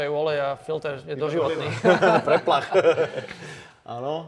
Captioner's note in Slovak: smiech